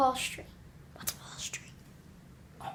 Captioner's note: whispers